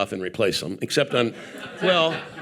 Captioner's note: audience laughing